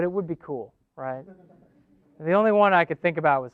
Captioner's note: laughing